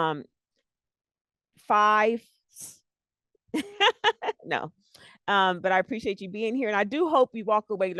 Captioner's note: laughs